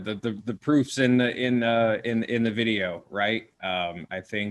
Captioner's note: stuttering